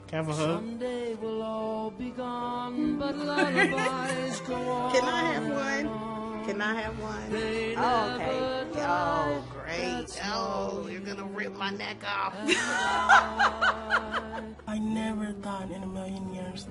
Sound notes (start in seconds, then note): 3.0 laughing; 12.4 laughing loudly